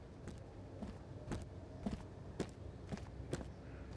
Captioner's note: feet stomping